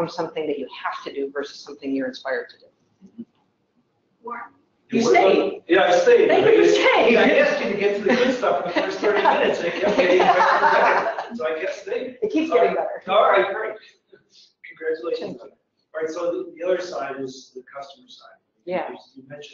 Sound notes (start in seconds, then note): 6.0 laugh; 13.3 laugh